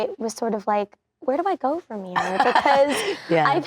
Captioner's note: laughing